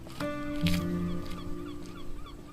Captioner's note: gulls squawking; footsteps crunching; gulls squawking